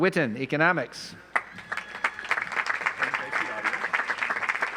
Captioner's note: audience applauds